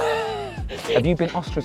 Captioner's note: laughs